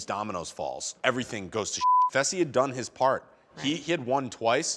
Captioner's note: beep